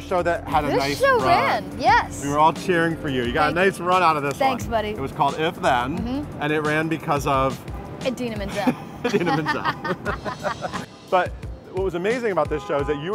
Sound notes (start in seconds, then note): 8.5 both laughing